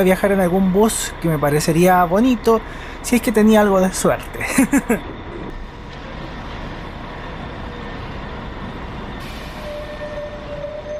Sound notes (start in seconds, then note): 5.4 ambient sound and arrival of the bus